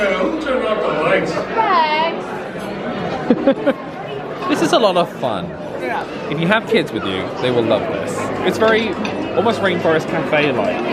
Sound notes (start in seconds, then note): 3.2 laughs